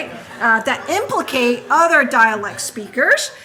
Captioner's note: audience laughing